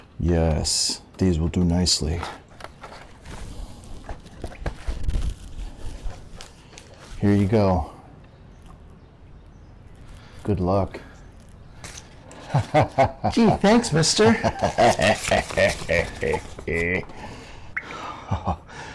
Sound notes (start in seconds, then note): 12.3 chuckling